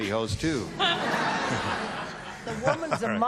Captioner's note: laughter